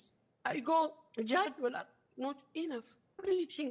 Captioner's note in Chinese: 非英語